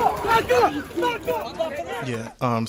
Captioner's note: yelling repeatedly